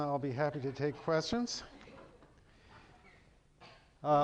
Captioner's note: chuckling